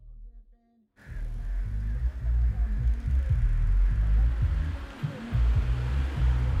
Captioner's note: rap music; car humming